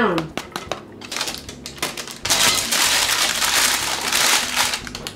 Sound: paper crackling

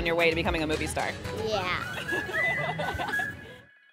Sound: laughter

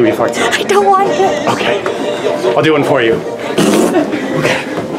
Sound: blows raspberries

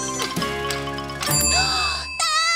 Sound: ding!

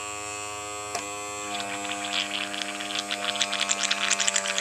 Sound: mixture bubbling

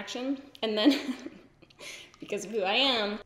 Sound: giggles

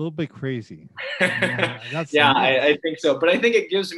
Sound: laughs

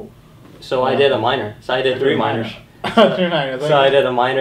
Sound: laughs

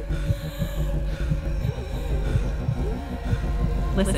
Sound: gasping for air

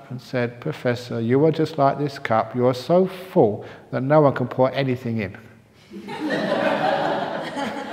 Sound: laughter

